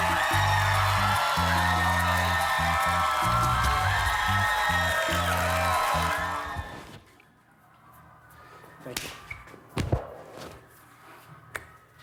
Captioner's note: cheers and applause